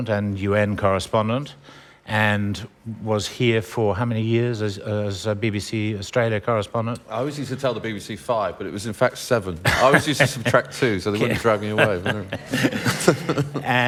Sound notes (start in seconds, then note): 11.1 laughter